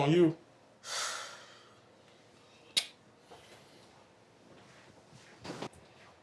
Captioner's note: sighs